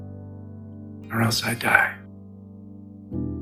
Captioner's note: voiceover